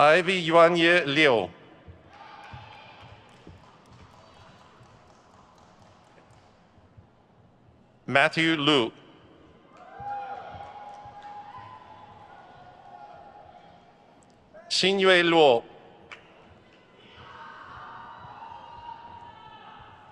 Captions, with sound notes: Ivy Yuanye Liu. Matthew Lu. (crowd cheers) Xinyue Luo.